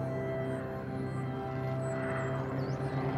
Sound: airplane rumbles

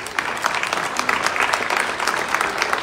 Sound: clapping

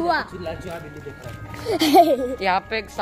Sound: laughs

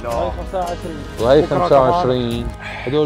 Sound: chatter

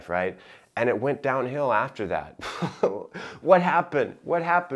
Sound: chuckling

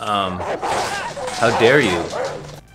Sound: dog barking

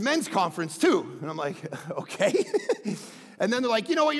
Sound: laughs

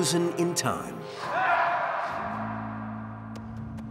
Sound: man shrieking; tense music

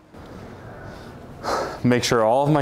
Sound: breathing heavily

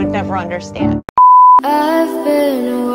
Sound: beep

